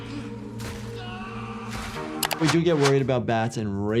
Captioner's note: boy screaming